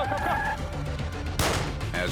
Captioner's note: gun shot